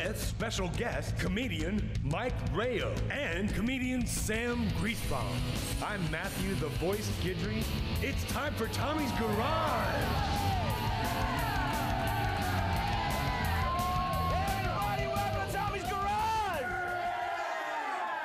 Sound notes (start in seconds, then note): 4.5 upbeat rock music; 8.3 audience cheering; 8.7 upbeat rock music